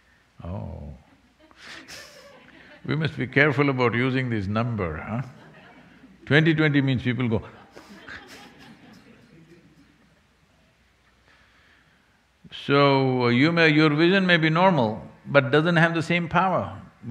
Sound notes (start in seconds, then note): 0.0 laughs; 10.8 laughter